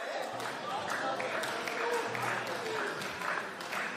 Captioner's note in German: Beifall